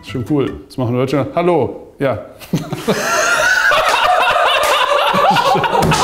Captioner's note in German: Großes Gelächter im Off